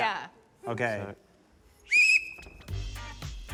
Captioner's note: blows whistle; funky music plays